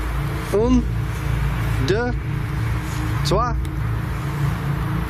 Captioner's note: speaking in foreign language